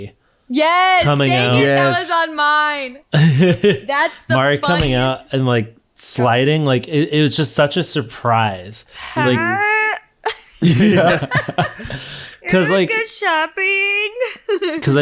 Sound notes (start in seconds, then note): 3.1 laughing; 10.3 all laughing